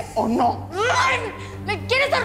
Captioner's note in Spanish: Grito ahogado